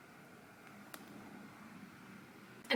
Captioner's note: soft sticking sound